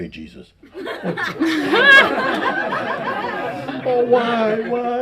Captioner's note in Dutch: gelach